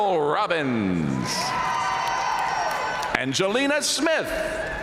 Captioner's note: audience cheering and applauding